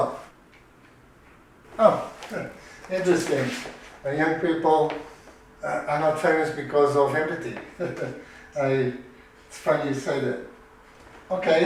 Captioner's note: laughs